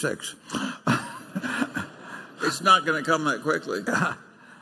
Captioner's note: laughter